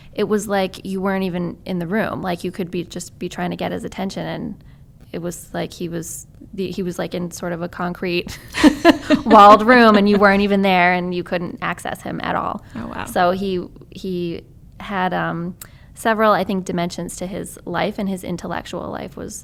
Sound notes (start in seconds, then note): 8.3 laughter